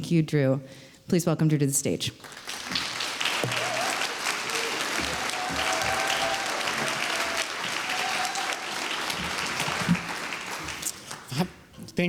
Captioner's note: applause